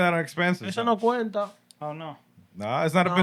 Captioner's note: speaking Spanish